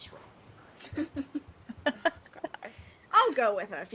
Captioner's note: person laughing